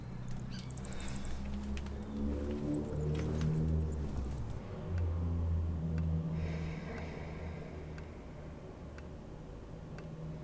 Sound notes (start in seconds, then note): 5.9 clock ticking